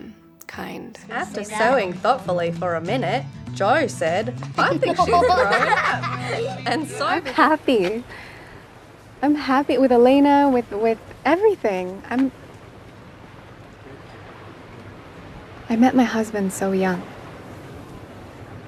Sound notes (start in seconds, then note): 4.6 children laughing